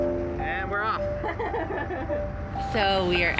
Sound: giggling

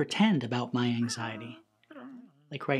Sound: critters mumbling in alarm

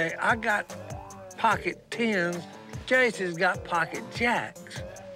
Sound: none

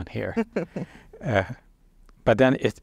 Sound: chuckles

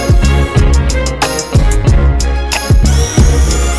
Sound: the shaker motor

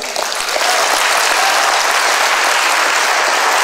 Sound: applause

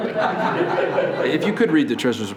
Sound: laughing

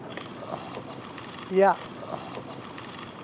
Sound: reel spinning

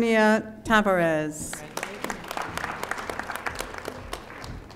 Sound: audience applauding

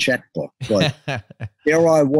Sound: laughs

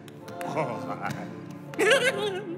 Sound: chuckles; chuckles differently; chuckling

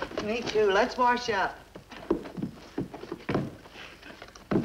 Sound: block thuds

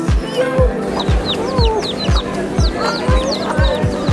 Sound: chicks chirping

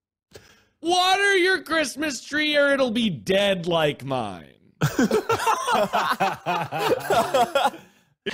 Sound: everyone laughs

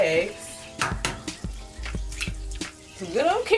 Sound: butter sizzling

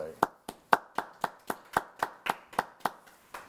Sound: applause

